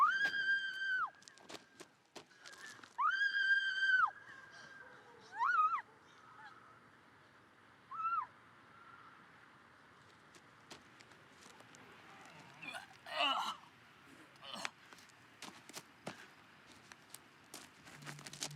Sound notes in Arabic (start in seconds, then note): 12.1 أنين